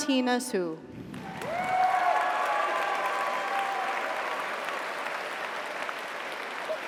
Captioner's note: audience applauds; audience cheers